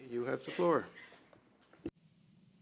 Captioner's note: speaking French